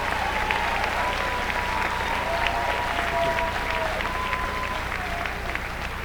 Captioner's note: applause